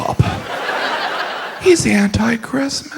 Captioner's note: audience laughs